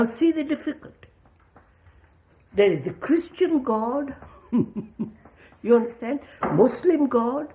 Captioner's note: laughs